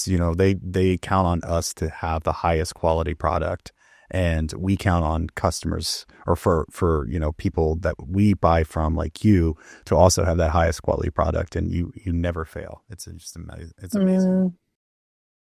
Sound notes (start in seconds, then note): none